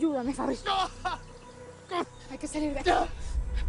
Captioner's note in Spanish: Quejidos